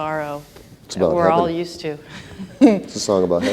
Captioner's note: laughs